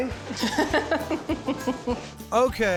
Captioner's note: cuts him off giggling